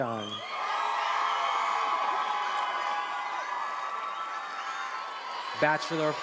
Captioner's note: attendees applauding and cheering